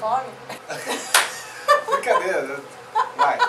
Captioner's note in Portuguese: Risos